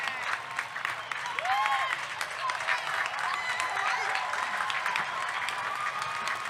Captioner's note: audience cheering; audience clapping